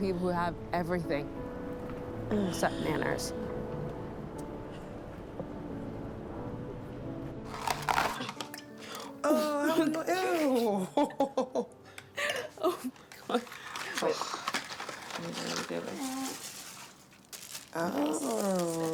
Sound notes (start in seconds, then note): 7.6 item rasping; 10.2 laughs